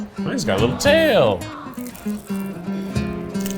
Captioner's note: crunches